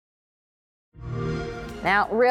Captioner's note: xbox sound